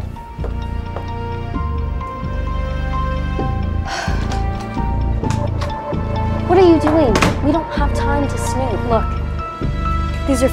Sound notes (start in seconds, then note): 0.1 intense music; 3.8 heavy sigh